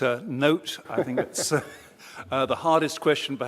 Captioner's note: laughter